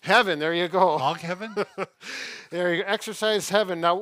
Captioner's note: laughs